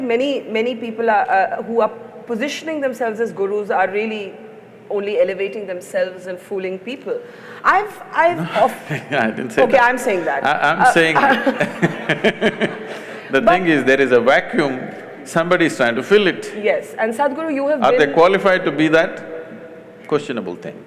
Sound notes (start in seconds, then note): 8.2 laughs; 10.8 laughter; 13.8 laughs